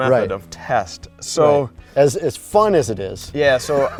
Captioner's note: laughs